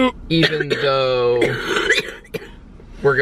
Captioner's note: coughing